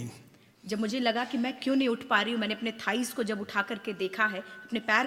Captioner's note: speaks foreign language